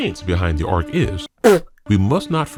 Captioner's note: splutters